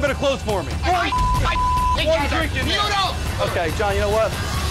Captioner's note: men arguing